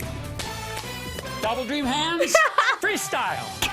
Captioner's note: laughs